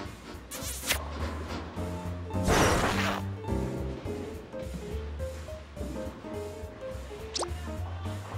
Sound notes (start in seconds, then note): 0.5 smooch